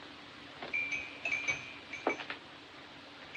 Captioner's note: glass Tinkling